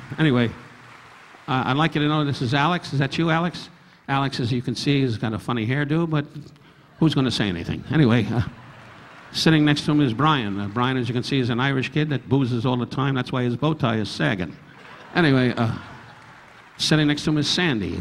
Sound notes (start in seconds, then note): 6.9 audience laughing; 14.6 audience laughing